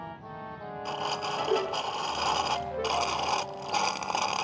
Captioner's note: slurping